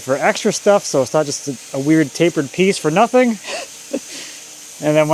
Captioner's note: laughs